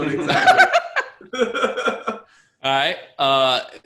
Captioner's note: laughter